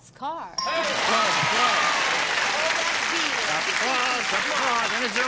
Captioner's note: cheering